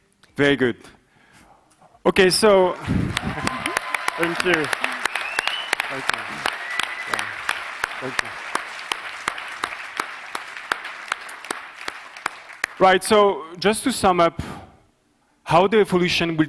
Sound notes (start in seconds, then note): 3.7 audience cheering